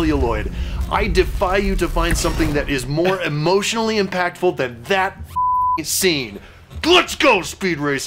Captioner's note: beeping